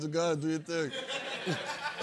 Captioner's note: laughter